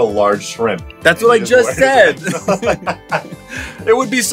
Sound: laughs

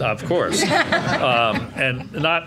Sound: laughing

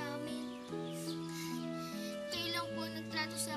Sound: Dodong sniffling

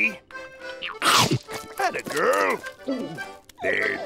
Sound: chomping

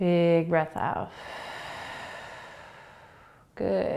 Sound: exhaling

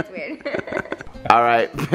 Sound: laughs

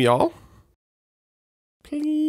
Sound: silence

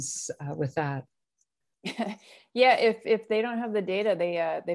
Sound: laughter

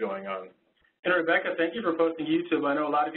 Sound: voiceover

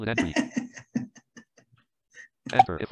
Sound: laughter

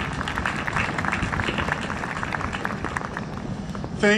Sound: applause

